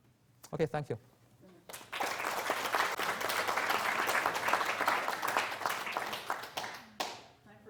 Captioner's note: applause